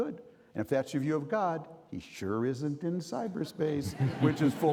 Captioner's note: audience laughing